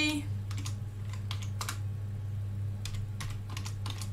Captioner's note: keyboard clicking